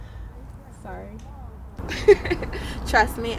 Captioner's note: laughs